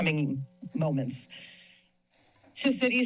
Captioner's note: pause